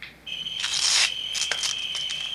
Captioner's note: tape tear